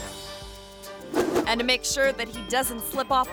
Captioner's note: screen whooshes